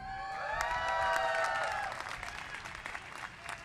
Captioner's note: cheers and applause